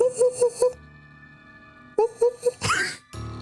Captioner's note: laughing